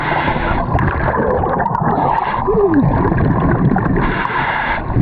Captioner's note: bubbles gurgling